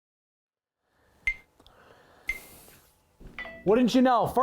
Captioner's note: phone beeping